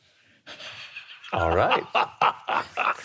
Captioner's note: laughing